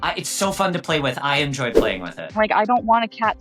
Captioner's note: graphic fwipping